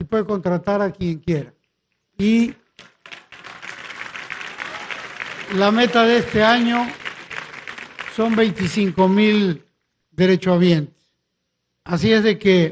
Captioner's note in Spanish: aplausos